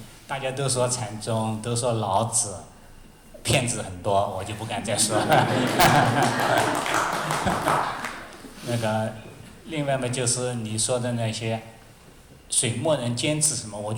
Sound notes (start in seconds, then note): 4.8 laughter, audience clapping